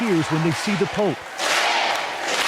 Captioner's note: applause